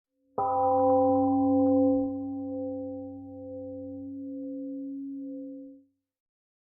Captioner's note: temple gong rings and fades